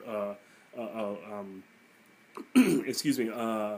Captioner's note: clearing throat